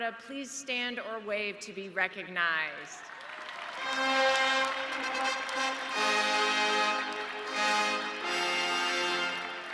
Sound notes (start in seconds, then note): 3.0 audience cheering; 5.5 ceremonial music